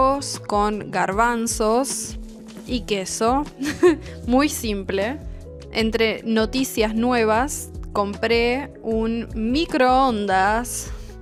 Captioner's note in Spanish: risas